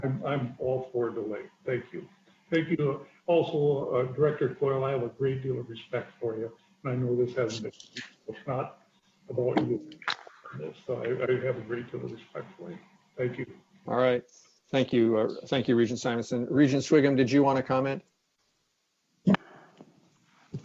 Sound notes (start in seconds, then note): 9.3 distorted sound